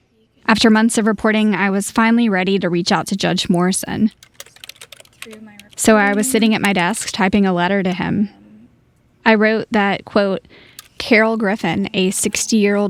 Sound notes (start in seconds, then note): 4.0 keyboard clacking